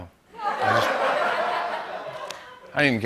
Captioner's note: laughter